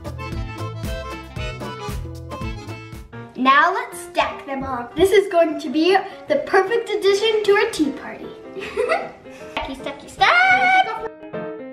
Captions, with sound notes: Now, let's stack them all. This is going to be the perfect addition to our tea party. (laughing) Stacky, stacky stack.